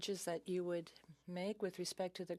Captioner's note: speaking in French